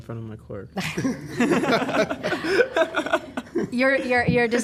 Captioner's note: laughter